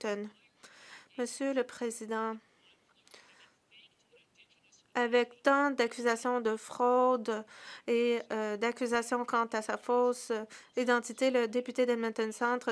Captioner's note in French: voix de l'interprète